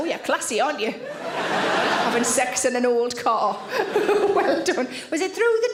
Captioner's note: audience laughing